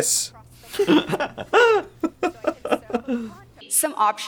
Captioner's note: both laugh in Google's respect for privacy